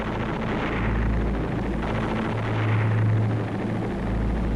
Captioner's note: gunshots booming